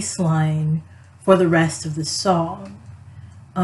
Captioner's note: none